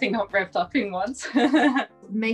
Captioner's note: chuckles